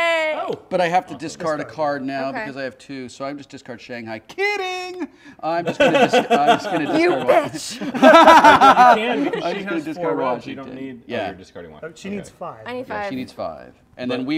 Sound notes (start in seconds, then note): 7.9 laughter